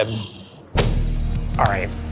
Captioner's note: upbeat music; hand thuds